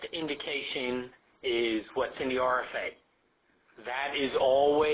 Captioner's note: voiceover